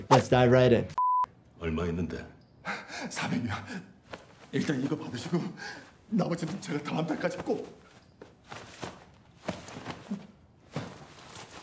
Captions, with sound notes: Let's dive right in. (SMPTE color bar test beeps) (man speaking in foreign language) (man panting) (man speaking in foreign language) (jacket rustling)